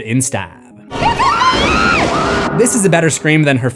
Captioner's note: screams